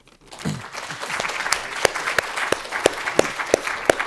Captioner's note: audience applauding